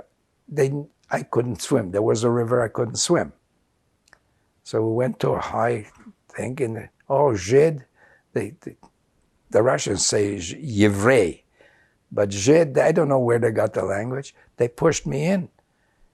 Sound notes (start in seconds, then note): 7.7 non-english; 10.4 russian; 11.4 non-english